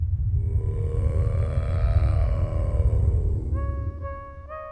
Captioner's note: creature groaning; dramatic music